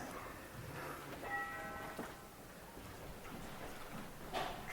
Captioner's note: doorbell rings